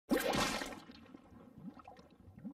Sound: liquid splats

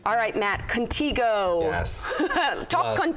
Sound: laughs

